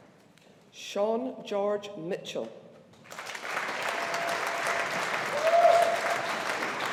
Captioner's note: audience applauding